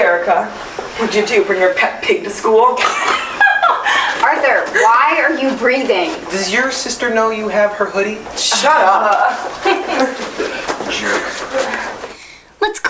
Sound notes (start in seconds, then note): 2.9 shrill laughter